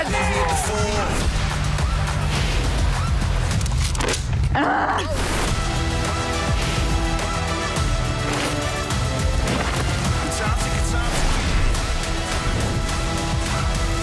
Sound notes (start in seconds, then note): 0.0 crowd cheering; 2.4 energetic music; 4.1 contestant grunts; 5.9 energetic music